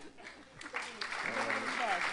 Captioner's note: applause